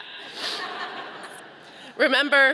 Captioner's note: audience laughing